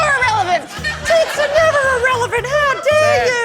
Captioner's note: falsetto